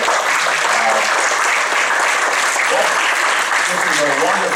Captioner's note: applause